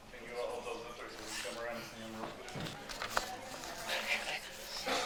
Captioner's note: attendees chatter